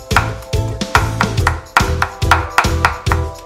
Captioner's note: chopping and music